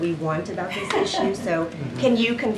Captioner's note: laughs